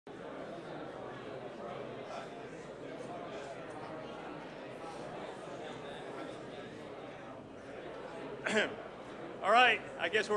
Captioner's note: crowd murmurs